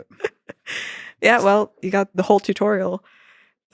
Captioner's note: laughs